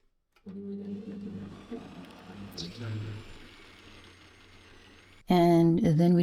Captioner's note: blender goes brrr